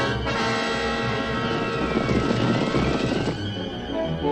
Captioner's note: horses galloping